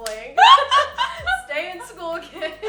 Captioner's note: laughing